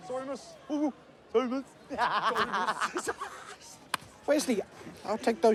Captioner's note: cackles